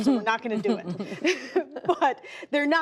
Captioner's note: laughter